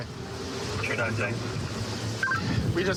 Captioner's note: radio communication